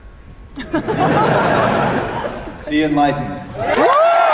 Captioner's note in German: Publikum lacht; Menge applaudiert und jubelt